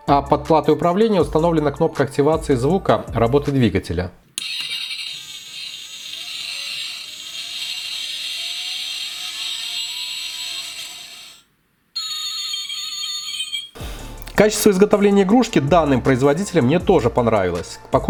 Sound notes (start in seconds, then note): 4.3 sound of the engine when it starts up and in motion